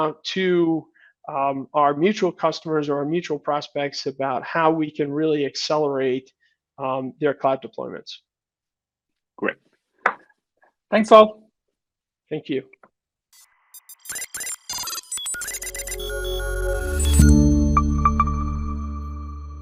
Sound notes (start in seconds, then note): 13.7 robot beeping; 15.6 uplifting music